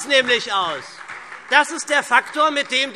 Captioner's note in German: Beifall SPD